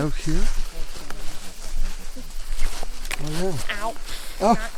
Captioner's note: group chatters